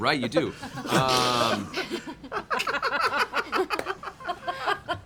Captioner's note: laughter